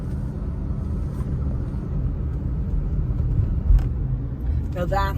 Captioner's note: car softly driving